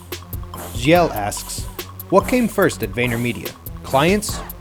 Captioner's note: voiceover